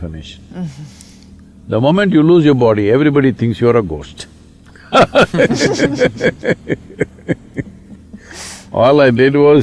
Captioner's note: laughter